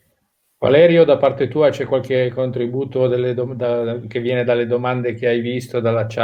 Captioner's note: speaking in foreign language